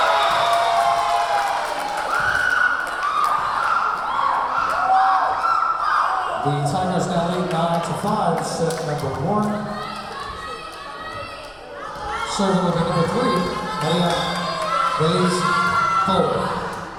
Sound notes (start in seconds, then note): 0.9 cheering; 0.9 whistle blowing; 3.7 cheering; 3.7 clapping; 11.3 yelling